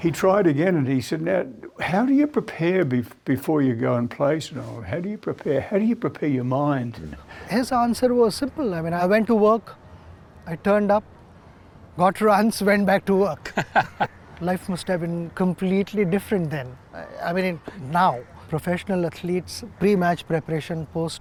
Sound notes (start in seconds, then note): 13.4 both laugh